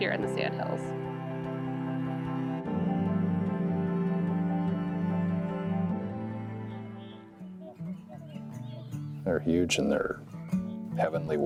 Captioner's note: swans honking